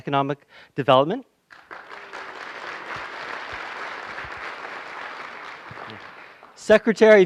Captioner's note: applause